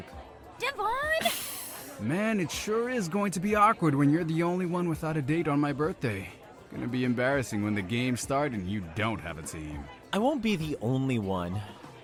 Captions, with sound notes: DENISE Devon! DEVON (Sharp exhale) HUNTER Man, it sure is going to be awkward when you’re the only one without a date on my birthday. Gonna be embarrassing when the games start and you don’t have a team. BEN I won’t be the only one.